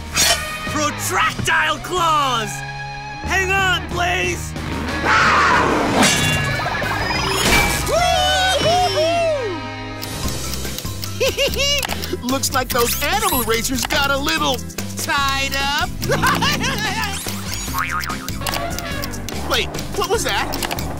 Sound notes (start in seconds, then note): 11.1 giggling; 15.9 laughing; 18.0 elephant horn